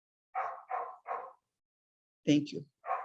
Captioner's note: dog barking